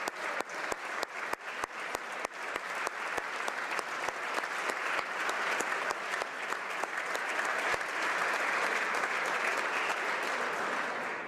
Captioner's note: applause